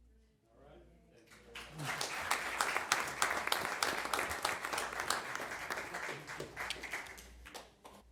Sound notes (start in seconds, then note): 5.6 applause